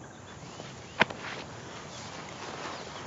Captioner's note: slaps